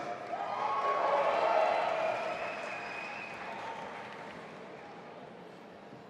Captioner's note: audience applauding and cheering